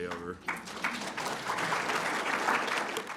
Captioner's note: applause